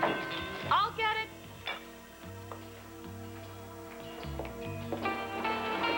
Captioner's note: doorbell rings